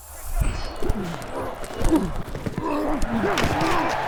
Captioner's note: crowd cheering